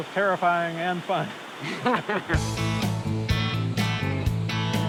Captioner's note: laughter